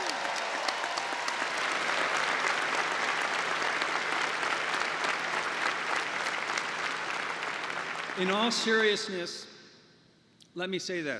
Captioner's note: applause